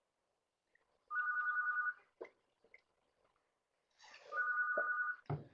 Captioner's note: silence